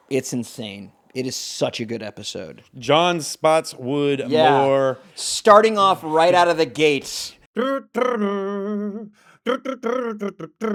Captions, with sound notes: It's insane, it is such a good episode. John Spotswood more. Starting off right out of the gates. (imitating music)